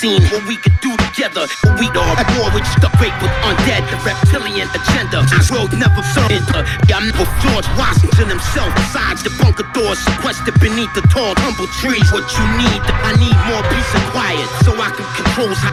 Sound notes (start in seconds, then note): 10.3 tumbleweeds